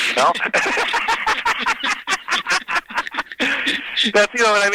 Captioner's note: both laughing